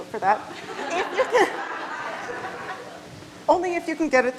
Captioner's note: all laughing